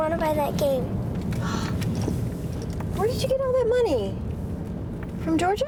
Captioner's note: gasp